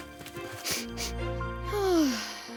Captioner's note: sniffs; sighs